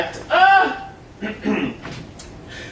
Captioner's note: clears throat